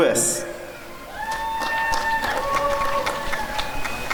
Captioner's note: applause and cheering